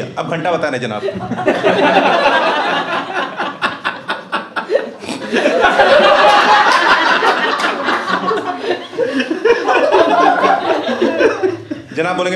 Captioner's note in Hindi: हँसना